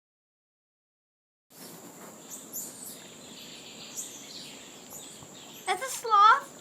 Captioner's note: silence; ambient nature sounds